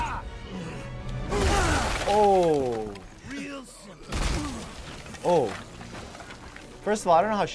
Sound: grunting, smashing again

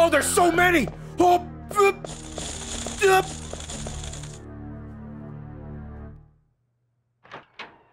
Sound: stress noises

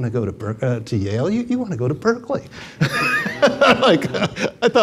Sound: laughs

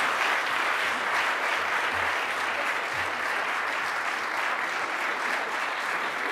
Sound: audience applauding and chattering

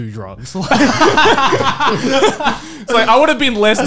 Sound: laughing loudly

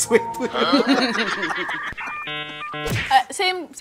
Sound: laughter

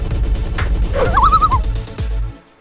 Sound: loon call

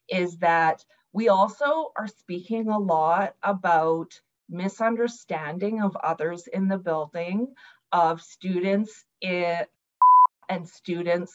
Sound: beep

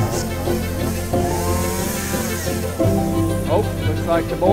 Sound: chainsaw

